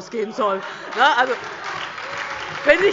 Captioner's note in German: Beifall DIE LINKE, SPD und Freie Demokraten